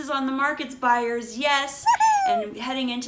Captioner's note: cheerful yipee sound